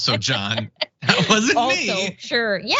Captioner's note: laugh